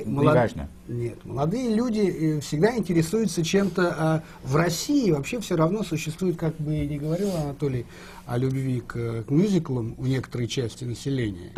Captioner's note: foreign language not transcribed